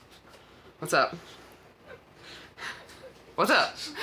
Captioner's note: child laughs